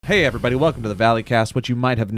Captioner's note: whooshing